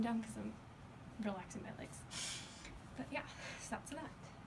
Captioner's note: sniffs